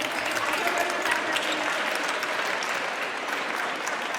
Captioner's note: audience applauds